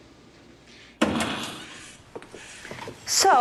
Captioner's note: door creaking